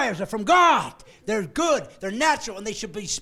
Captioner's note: laughing